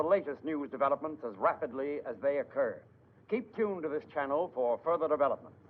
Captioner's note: none